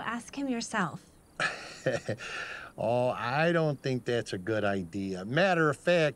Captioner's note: chuckles